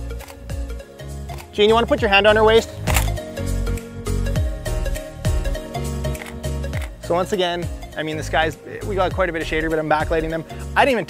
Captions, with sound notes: (click) Gene, do you want to put your hand on her waist? (click) (click, click) So, once again, I mean the sky's, we've got quite a bit of shade, rather than back-lighting them.